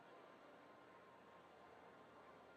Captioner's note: none